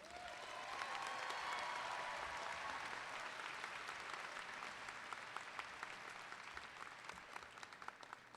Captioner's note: applause